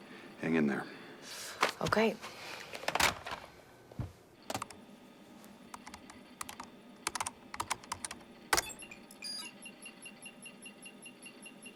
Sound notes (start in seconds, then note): 3.1 footstep; 8.6 alarm